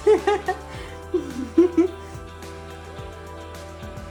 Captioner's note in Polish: śmiech